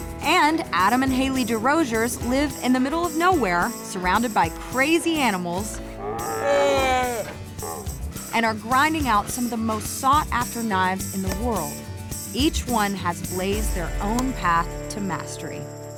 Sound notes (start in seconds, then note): 5.7 croaking back; 5.9 seals croaking